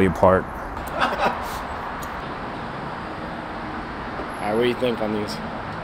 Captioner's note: guys laugh